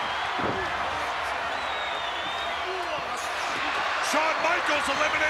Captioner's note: applause